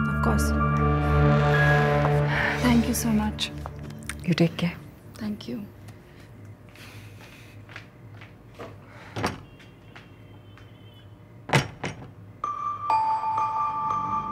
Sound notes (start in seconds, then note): 9.0 door opening; 11.5 door closing